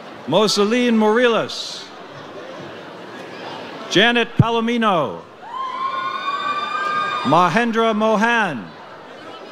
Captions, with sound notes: Mosili Moriles. Janet Palomino. (audience cheers) Majendra Mohan.